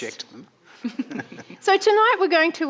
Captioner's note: chuckles